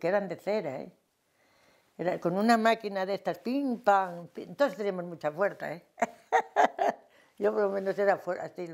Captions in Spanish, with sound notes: eran de cera, eh. Con una máquina de estas ¡pim, pam! Todas teníamos mucha fuerza, eh [ríe] Yo por lo menos era fue...